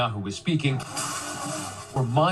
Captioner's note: protest sounds